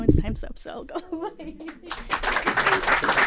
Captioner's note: applause